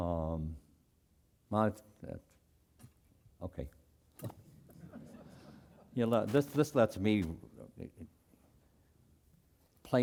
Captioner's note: laugh